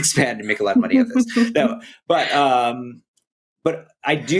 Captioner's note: laughter